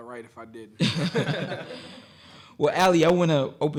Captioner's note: audience laughing